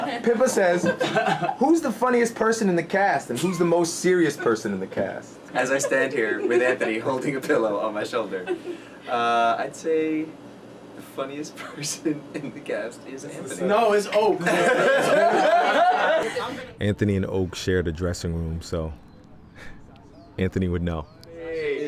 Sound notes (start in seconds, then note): 14.2 laughing